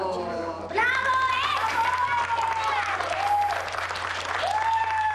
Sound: applause

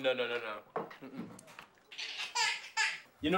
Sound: laughs

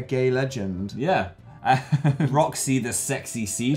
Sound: chuckles

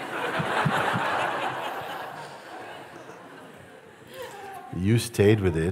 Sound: laughter

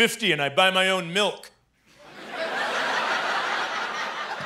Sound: laughter

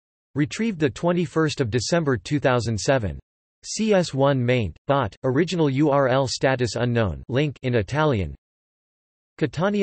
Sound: in Italian

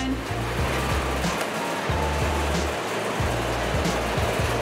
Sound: fan drones

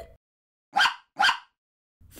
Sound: bark! Bark!

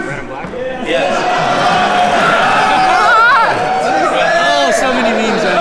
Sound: crowd cheering; laughing

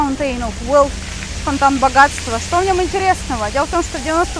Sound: translates into Russian

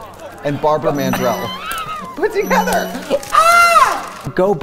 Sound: laughs

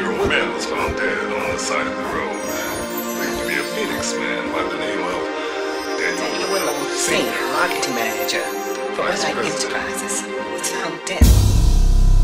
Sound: repeating voices of the tragedy

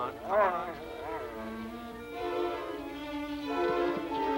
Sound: Shep growling

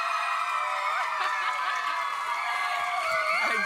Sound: audience cheers

